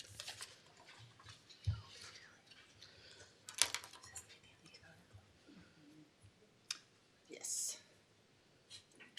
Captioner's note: shuffling